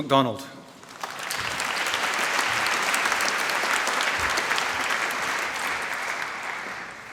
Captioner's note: applause